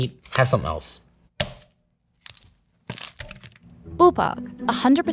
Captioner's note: plastic rustling; package thunks